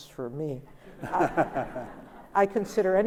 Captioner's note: Albie laughs